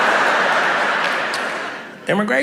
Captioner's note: audience laughs